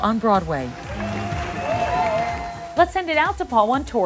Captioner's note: audience cheering